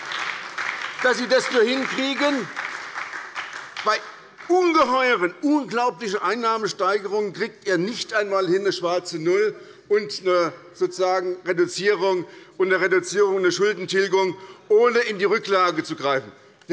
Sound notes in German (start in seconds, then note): 2.4 Beifall bei der SPD